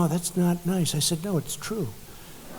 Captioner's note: laughter